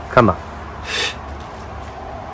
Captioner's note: takes a deep breath